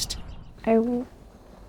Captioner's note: nature sounds